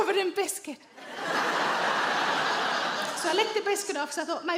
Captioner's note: audience laughs